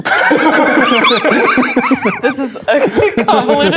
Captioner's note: players laughing